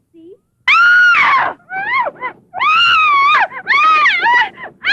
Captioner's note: screaming